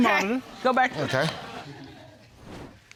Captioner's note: laughter